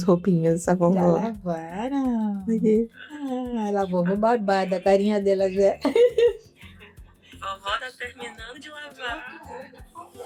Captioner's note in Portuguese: risadas